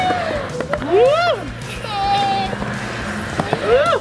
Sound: whooping

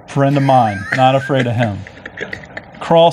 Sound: laughs

